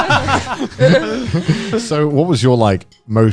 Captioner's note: laughing